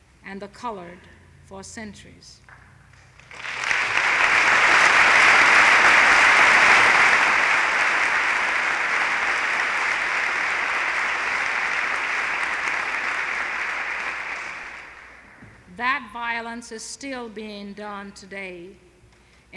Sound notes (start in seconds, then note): 3.0 applause